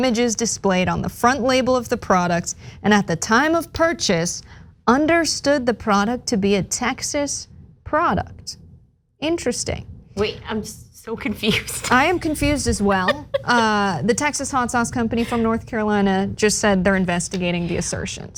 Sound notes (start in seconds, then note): 11.6 laugh